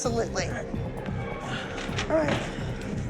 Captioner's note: exhales